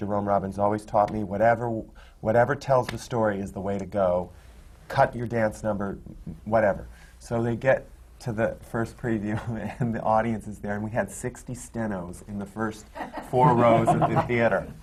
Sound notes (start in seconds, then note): 9.0 laughs